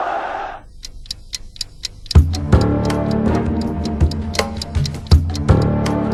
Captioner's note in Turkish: Tik-Tak